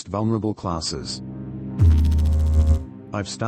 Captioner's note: electrical noise